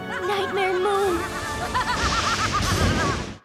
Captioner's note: laughs evilly; thunder crashing